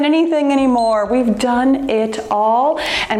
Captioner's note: timer beeps